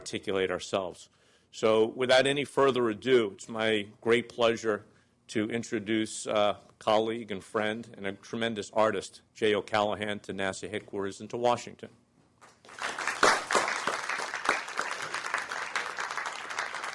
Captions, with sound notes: So, without any further ado, it's my great pleasure to introduce a colleague and friend and a tremendous artist, Jay O'Callahan, to NASA Headquarters and to Washington. [ Applause ]